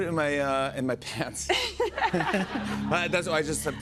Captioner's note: laughter